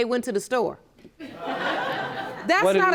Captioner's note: audience laughing